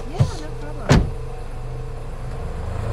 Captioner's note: door slams; tense music; engine revving